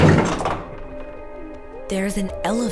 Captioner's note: door slides open